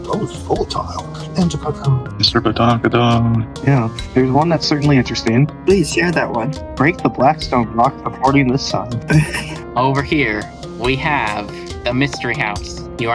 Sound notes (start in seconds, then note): 9.0 rookie sympathy noises